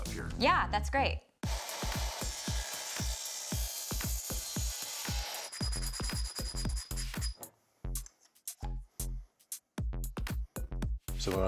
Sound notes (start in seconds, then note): 1.4 sawing; 5.7 sanding